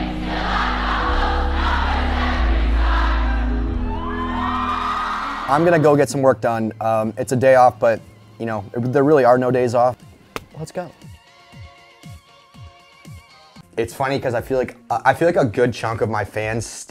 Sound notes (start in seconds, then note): 2.7 audience cheering; 11.3 upbeat music